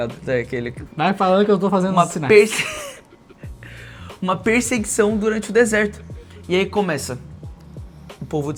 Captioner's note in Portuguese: risadas